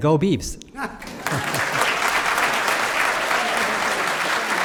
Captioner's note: applause